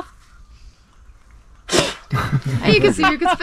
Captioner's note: Spit